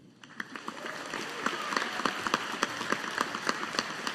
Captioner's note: audience applauding